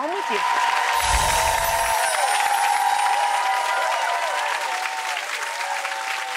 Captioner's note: audience claps and cheers